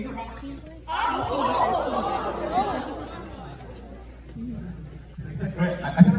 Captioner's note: audience murmurs